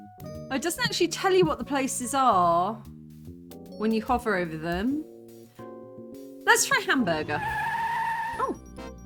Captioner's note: screeching tyres